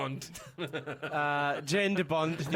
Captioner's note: hahahaha